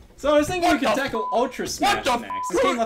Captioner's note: beeps